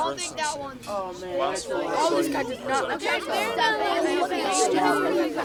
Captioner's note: indistinct chatter